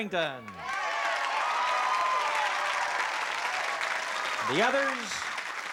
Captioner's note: cheering